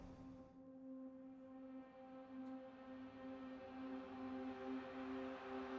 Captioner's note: gentle music; crowd cheering